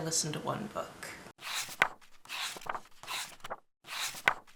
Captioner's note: pages turning